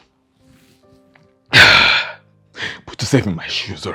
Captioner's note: sighs